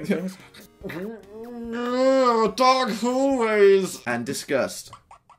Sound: weird groaning/gurgling

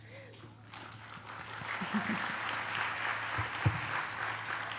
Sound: applause

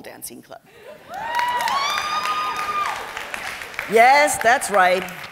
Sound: cheering and applause

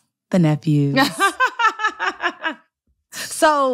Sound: laughter

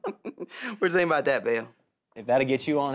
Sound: laughs

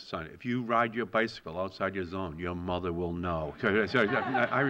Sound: laughter

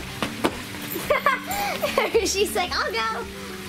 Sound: laughs

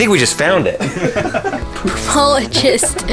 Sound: laughs

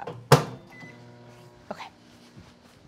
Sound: microwave spinning

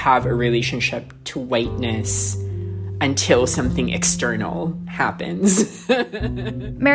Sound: laughter

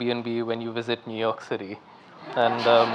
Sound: audience laughing

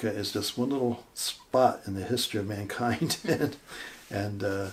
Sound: chuckling

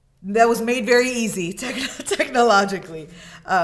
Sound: laughs

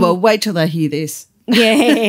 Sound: laughter

